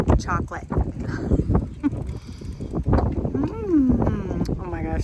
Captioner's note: chuckles